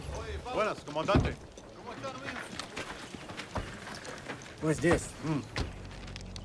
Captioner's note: officer and soldier speaking Spanish